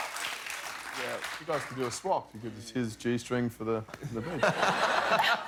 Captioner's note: cheers and applause